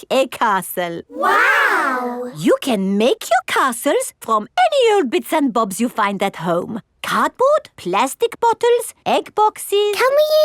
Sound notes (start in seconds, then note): none